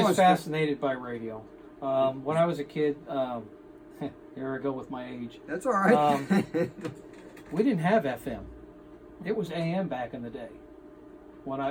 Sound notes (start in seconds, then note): 3.4 scoffs; 6.0 laughs